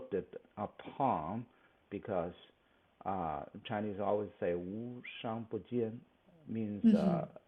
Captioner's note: speaks Mandarin